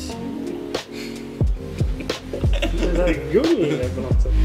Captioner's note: laughs